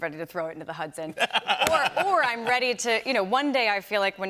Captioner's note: laughter